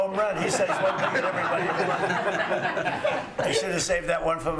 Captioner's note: laughter